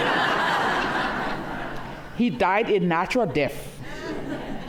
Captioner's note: laughter